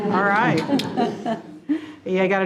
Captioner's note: group chuckling